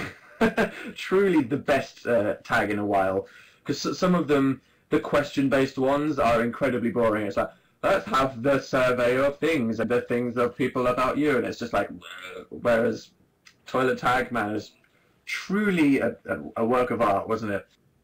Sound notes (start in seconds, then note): 0.0 laughs; 11.9 groans